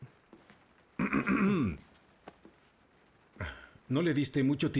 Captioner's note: clears throat